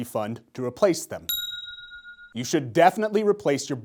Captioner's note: bell ringing